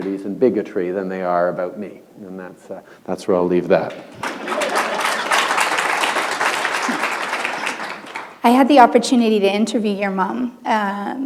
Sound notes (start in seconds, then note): 6.4 applause